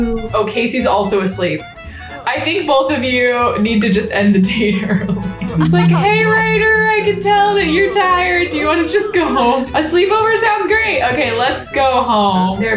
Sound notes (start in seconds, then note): 4.4 laughs